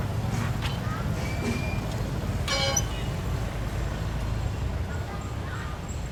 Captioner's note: indistinct chatter